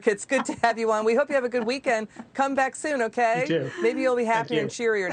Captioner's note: laughter